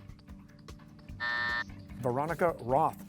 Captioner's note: buzzer